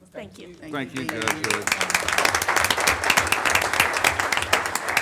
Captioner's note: audience applauding